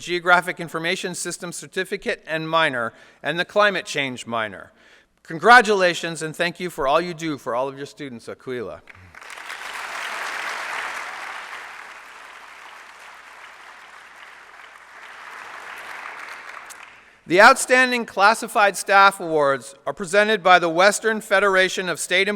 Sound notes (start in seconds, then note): 10.7 applause